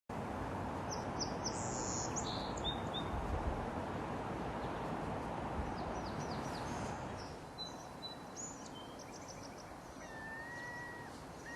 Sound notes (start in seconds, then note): 0.8 birds chirping